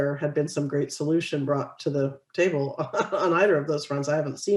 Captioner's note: laughs